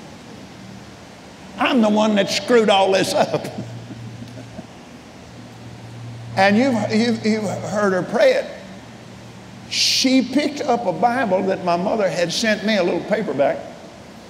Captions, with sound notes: I'm the one that screwed all this up. (chuckles) And you've heard her pray it. She picked up a Bible that my mother had sent me a little paperback